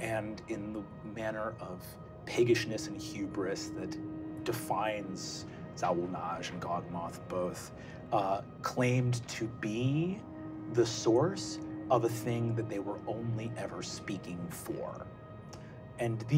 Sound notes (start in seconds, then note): none